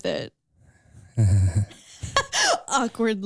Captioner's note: both narrators laughing